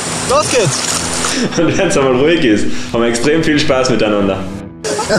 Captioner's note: laughs